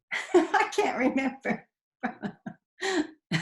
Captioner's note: laughing